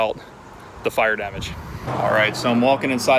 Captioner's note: road noise